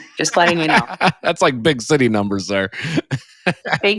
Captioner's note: laughing